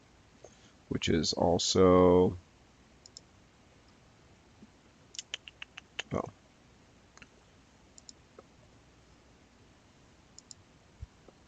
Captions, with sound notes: Which is also (clicks tongue) oh, (mouse clicking)